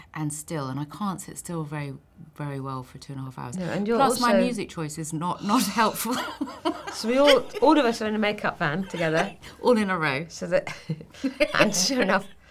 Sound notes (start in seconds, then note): 6.1 laughing; 7.0 sighs